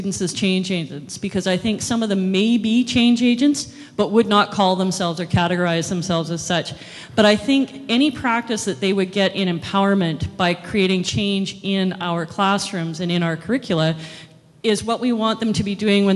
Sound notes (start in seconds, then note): none